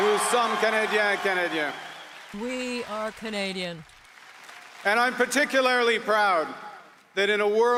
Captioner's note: applause